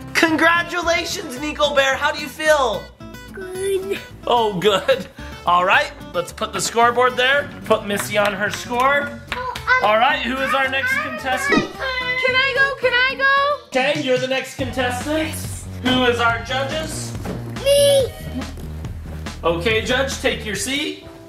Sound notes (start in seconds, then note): 3.4 dad chuckles; 7.8 hands clapping